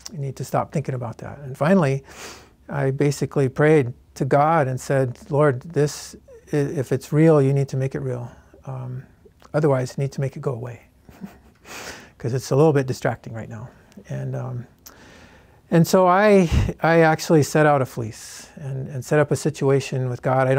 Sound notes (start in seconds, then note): 11.0 laughs